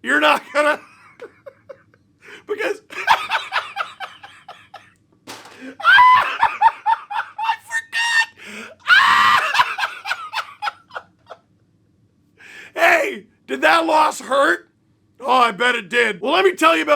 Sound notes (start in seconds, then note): 1.1 pained laughter; 2.3 deranged laughter